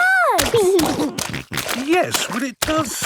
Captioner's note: snorting